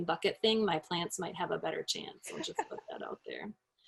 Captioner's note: laughs